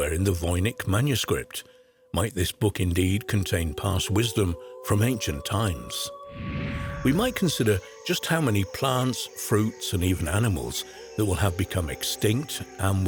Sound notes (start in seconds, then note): 6.2 air wooshing; 7.0 insects chirping